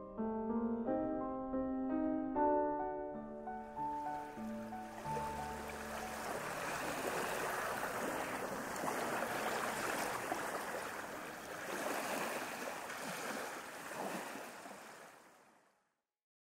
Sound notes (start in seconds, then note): 4.4 ocean sounds